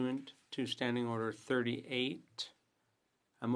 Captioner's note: speaking French